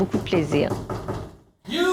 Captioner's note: knocks on the door